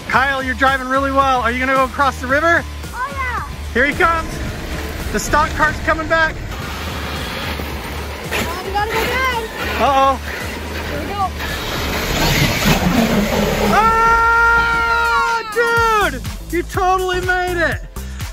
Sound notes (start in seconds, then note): 13.7 both cheering